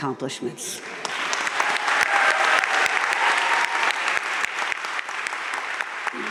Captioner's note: audience cheering and applauding